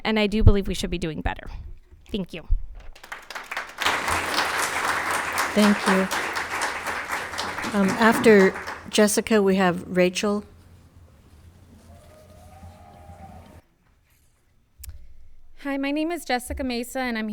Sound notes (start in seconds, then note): 3.0 audience clapping hands; 11.9 people cheering